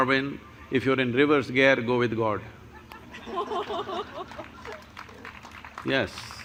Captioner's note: laughter/Applause